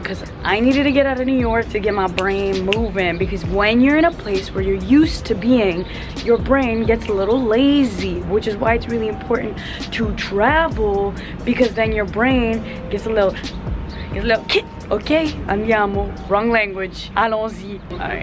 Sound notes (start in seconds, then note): 15.2 speaks in foreign language